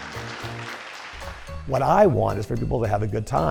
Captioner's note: cheers and applause